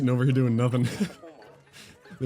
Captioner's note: laughs